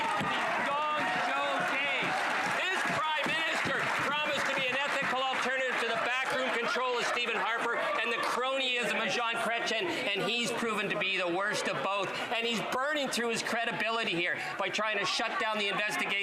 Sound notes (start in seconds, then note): 2.9 some Applause